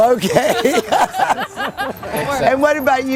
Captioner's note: laughing